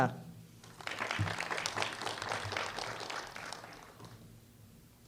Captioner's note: applause